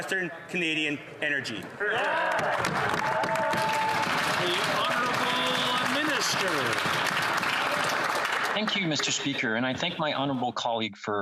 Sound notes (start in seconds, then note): 5.7 applause